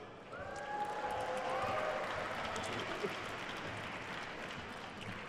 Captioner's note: attendees cheering and applauding